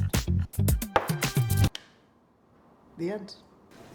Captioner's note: claps hands